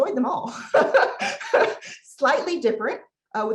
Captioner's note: laughs